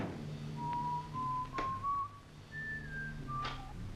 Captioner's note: whistles